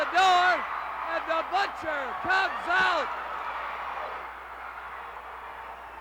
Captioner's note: crowd cheering